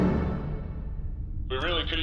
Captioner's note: transition music; returning to dubious British accent